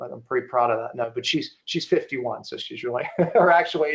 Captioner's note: giggling